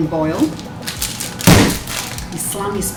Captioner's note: bang